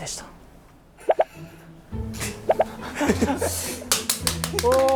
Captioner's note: haha